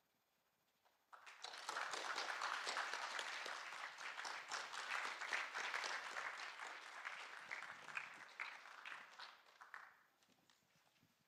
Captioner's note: applause